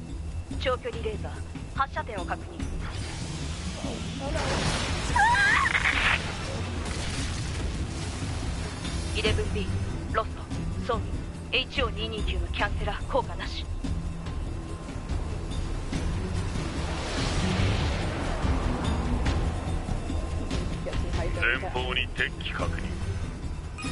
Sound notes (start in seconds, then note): 5.1 scream